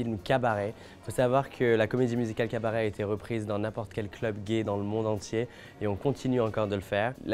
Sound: speaking French

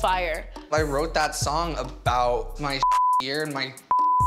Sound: beep

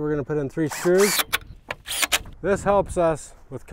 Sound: drill whirring

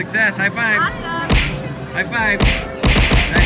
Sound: loud slapping

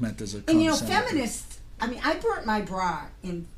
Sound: voiceover

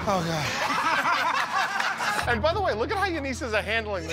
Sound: laughter

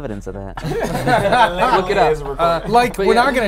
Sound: laughing

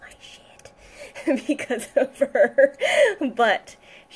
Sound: laughs

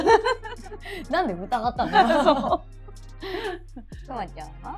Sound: laugh

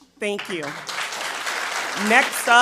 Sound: attendees applauding

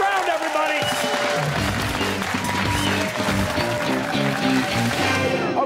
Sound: cheers and applause

